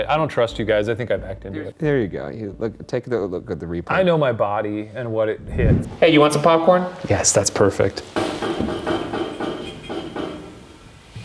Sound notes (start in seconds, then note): 8.0 pipes banging